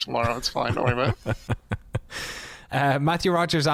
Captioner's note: laughter